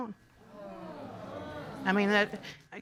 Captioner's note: audience exclaiming